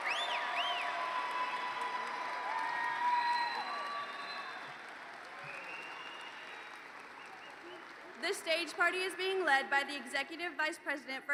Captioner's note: cheers and Applause